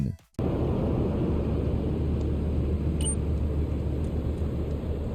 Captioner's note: traffic humming